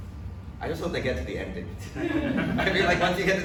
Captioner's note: audience laughs